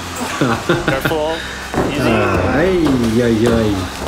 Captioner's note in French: rire